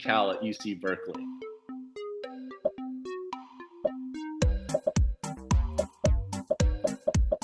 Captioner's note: upbeat music; popping